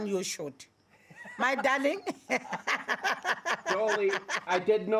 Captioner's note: laughs